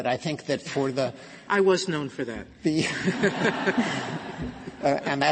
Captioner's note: laughter